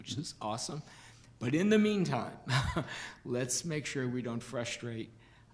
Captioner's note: laughs